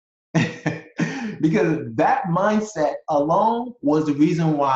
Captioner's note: laughs